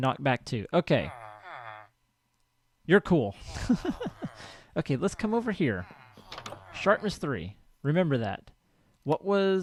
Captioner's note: laughs; chattering continues